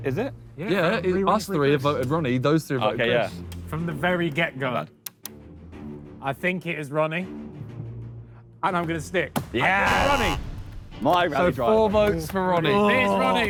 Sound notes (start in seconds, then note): 9.8 buzzer buzzes